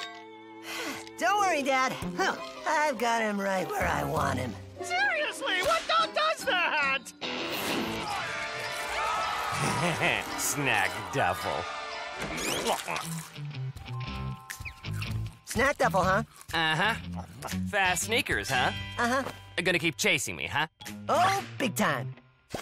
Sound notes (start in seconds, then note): 0.2 sighs; 8.7 eating noisily; 9.6 chuckles